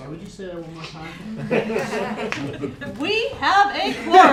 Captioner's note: laughter